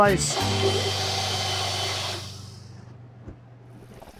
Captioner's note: blender stirring